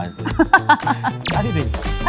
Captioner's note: haha